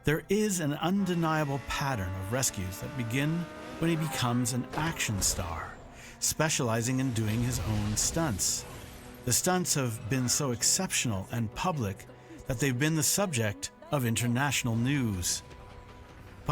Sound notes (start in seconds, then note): none